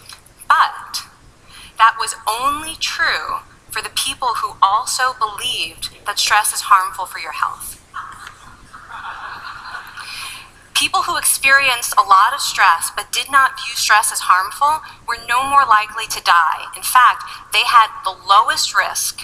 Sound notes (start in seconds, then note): 7.9 laughing